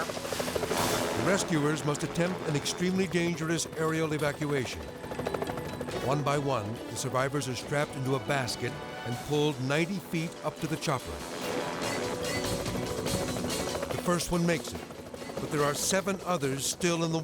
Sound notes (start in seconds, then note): 0.2 helicopter rotor whirring; 4.7 helicopter rotor whirring; 11.0 helicopter rotor whirring; 11.0 tense music